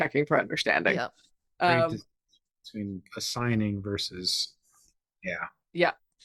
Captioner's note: faintly speaking